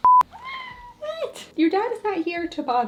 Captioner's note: cat meows